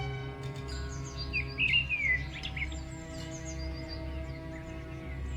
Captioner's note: birds chirping